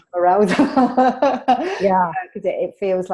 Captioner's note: laughs